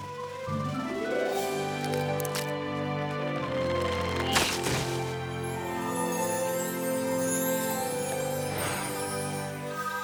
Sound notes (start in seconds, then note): 3.1 snap!; 4.8 grunts; 6.8 tinkling